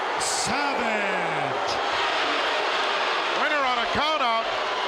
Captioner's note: crowd boos